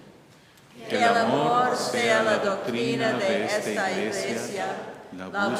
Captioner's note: congregation speaking in Spanish